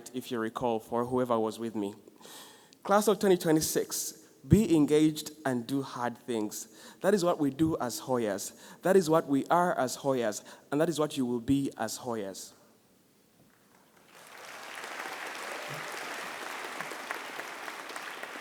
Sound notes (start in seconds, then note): 13.6 audience applauding